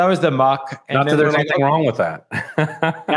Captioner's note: laughs